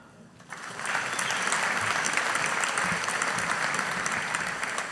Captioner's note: audience applauding